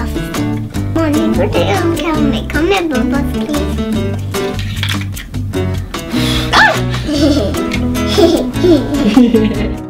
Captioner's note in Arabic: الطفلة تنفخ الفقاعات والأم تضحك